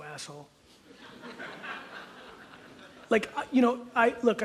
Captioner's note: audience laughs